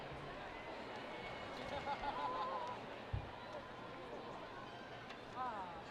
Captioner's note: students cheering and laughing